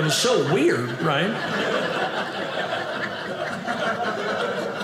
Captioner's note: audience laughing